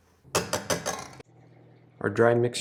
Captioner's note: whisk taps